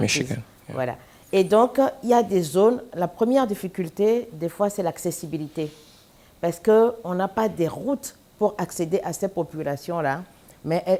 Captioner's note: speaking french